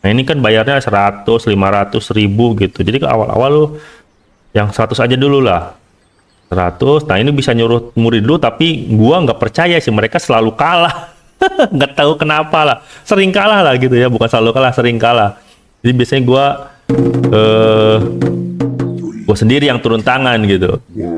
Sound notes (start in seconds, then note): 10.8 laughs